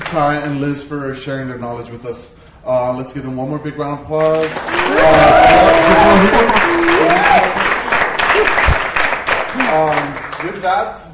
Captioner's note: applause